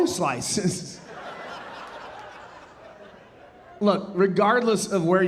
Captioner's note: audience laughing